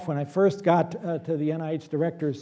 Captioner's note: none